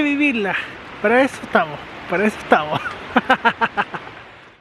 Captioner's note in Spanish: risas